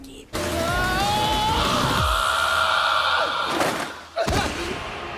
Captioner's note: Reki shouting